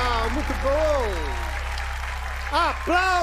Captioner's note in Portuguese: aplausos